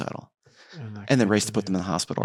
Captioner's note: faintly speaking